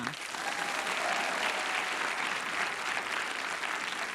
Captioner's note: audience applauding